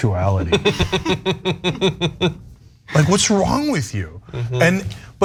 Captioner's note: laugh